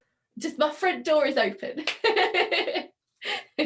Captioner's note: laughing